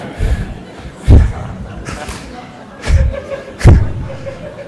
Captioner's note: laughter